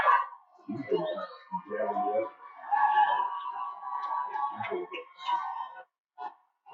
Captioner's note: cheering